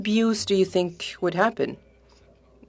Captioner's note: speaking French